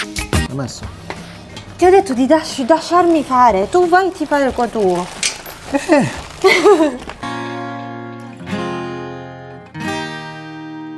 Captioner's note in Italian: risate